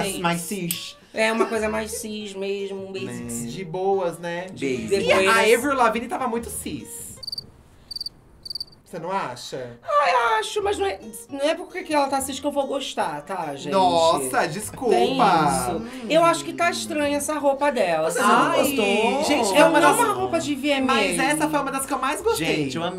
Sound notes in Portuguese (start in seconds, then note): 8.3 grilos cricrilando